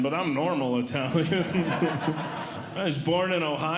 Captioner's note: audience Laughing